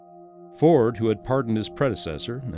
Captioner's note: voiceover